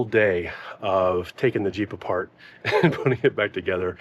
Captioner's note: chuckles